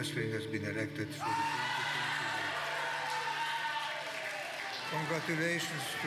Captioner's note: cheering